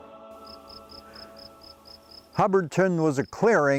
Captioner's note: crickets chirring